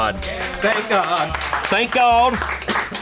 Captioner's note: colleagues applauding